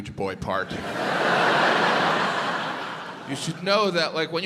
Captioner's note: audience laughs